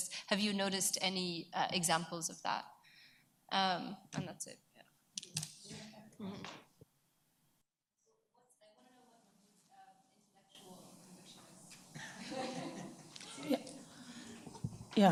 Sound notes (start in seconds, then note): 5.7 speaks away from mic; 8.9 woman speaks away from mic; 11.9 attendees chuckle